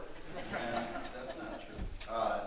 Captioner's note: audience laughing